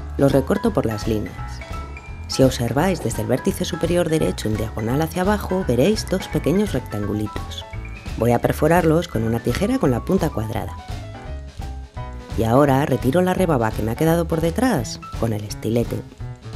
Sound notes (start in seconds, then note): none